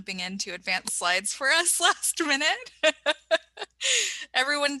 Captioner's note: laughs